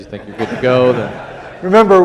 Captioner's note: audience laughs